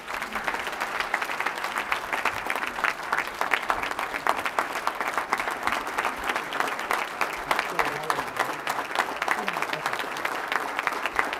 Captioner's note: applause